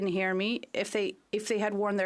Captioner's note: speaking French